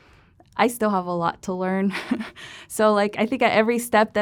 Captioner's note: laughter